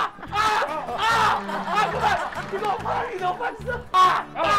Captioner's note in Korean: 큰 공 랜드를 가득 채우는 비명소리